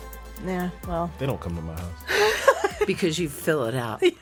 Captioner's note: laughing